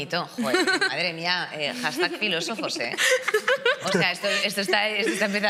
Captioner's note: guests laugh